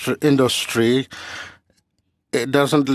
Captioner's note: speaking french